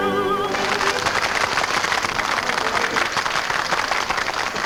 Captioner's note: patrons clap